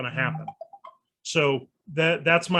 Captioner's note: soft ringing